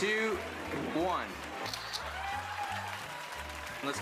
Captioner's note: camera shutter clicks